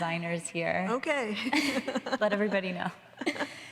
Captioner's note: laughs